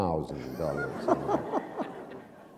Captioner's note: laughter